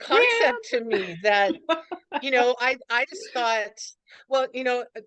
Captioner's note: laughs